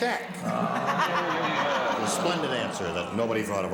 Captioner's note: audience groaning